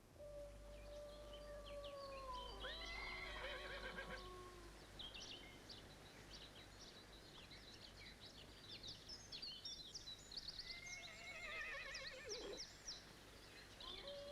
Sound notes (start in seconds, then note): 2.0 birds chirping; 2.5 horse neighs; 11.1 horse neighs; 14.0 canine howling